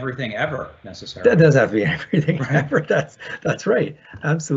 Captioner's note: chuckles